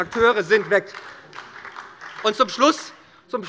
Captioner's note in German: Beifall bei Abgeordneten der SPD